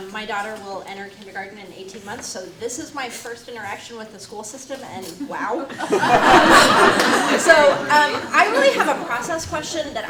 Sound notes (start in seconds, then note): 5.6 audience laughing